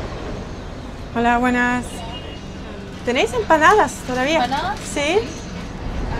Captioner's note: in Spanish